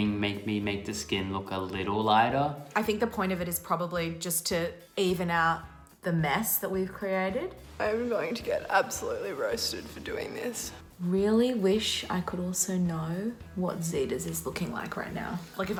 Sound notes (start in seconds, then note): none